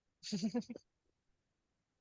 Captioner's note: chuckles